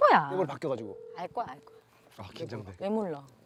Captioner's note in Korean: 휴대전화 통화 연결음